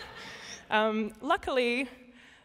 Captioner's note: laughter